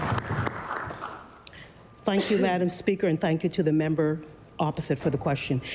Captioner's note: applause